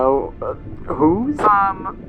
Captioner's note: SFX: voice crackles in MILES’ earpiece